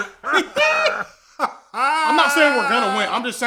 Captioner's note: dying of laughter; laughing continues